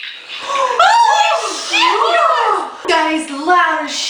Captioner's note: gasps